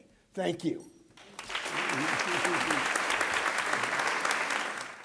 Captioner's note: applause